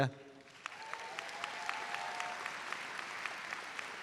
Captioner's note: audience applauds